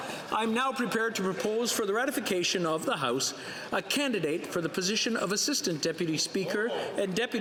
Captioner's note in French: voix de l'interprète